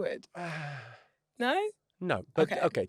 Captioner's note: Jimmy sighs